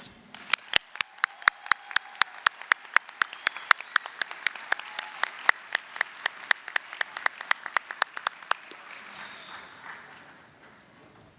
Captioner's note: applause, cheering